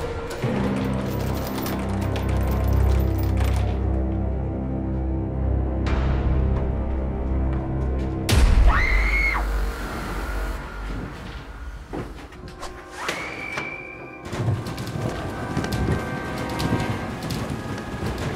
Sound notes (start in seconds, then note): 0.0 door rattling; 8.7 Lindsay screams; 12.7 ax whooshes; 13.7 Lindsay screams